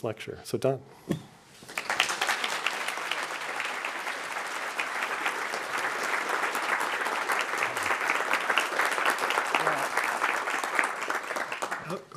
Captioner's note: applause